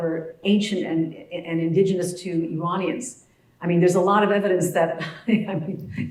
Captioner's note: laugh